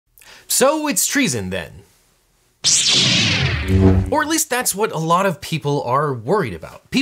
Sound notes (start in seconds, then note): 2.6 lightsaber whirs; 2.6 lightsaber hums